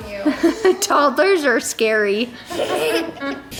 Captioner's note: laughing